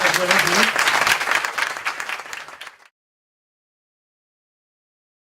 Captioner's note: applause